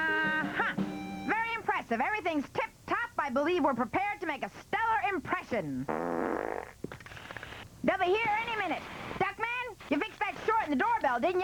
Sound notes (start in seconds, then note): 5.8 breaking wind